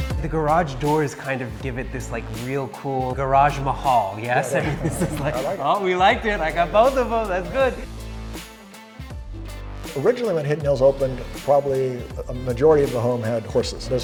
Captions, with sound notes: - The garage doors kind of give it this like real cool Garage Mahal, yes? (all laughing) Ah we liked it, I got both of 'em, that's good. - Originally when Hidden Hills opened, probably a majority of the home had horses.